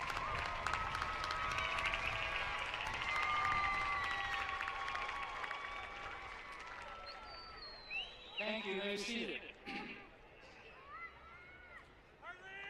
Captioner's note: applause